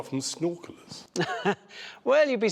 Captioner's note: laughter